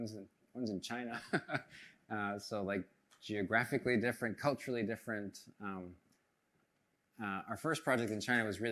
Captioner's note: chuckles